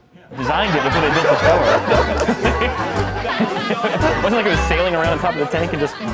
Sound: laughter

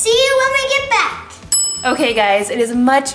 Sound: bell rings

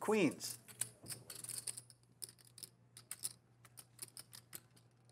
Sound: chips clicking

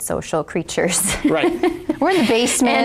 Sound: laughing

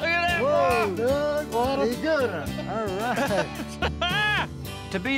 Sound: laughter, cheering

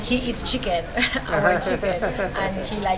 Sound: laughter

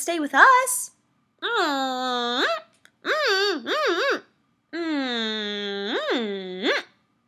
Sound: humming affectionately

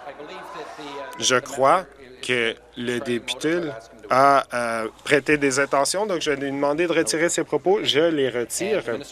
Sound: applause; conversation din

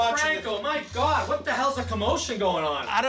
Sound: yelling

